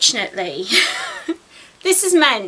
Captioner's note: giggles